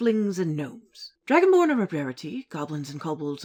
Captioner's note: none